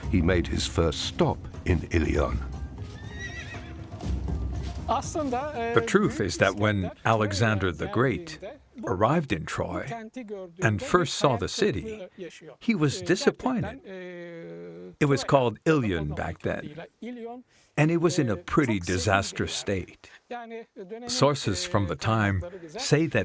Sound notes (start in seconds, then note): 2.9 horse neighing; 3.5 upbeat music